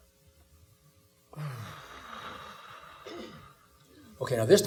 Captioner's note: exhaling